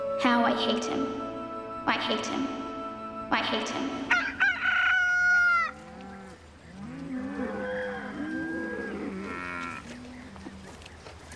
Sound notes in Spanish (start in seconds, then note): 4.1 gallo cantando; 6.8 vacas mugido